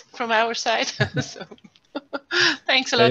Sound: laughs

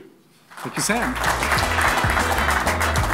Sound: clapping; upbeat music

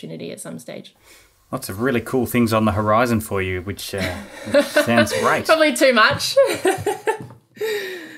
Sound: laughing

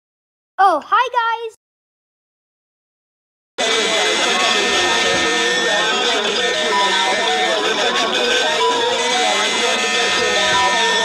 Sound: war cries

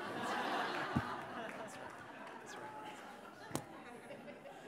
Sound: audience laughing

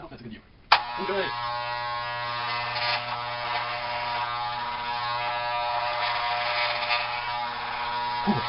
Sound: hair clippers

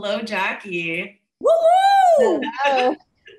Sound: whooping excitedly

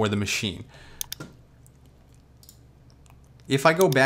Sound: mouse clicks

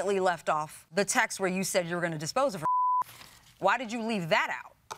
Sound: beeps

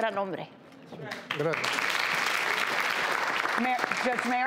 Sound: audience applauds

